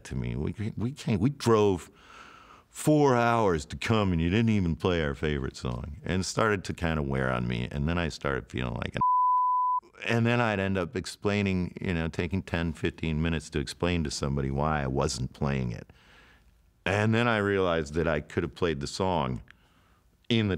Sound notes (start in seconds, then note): 9.0 beep